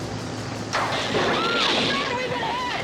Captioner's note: electricity buzzing; girls screaming